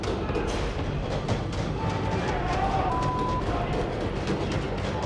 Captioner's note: banging; inmates shouting and swearing indistinctly